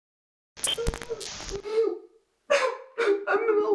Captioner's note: static buzzing; man sobbing